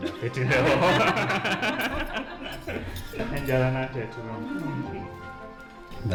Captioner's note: laughter